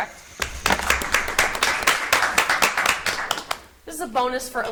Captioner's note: audience applauds